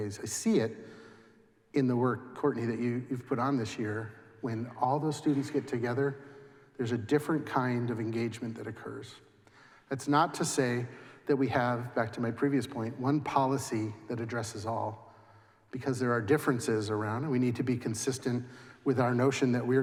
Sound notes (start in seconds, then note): none